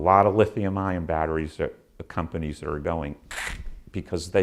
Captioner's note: sound effect